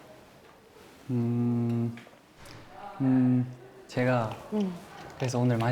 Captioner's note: hesitant